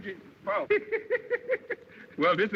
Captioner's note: laughter